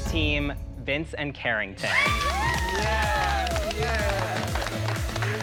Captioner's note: cheering